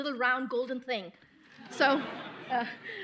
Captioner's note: laughter